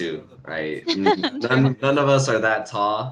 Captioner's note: laughter